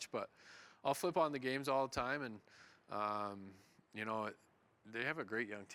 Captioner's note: none